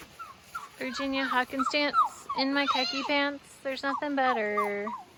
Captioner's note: barking like a dog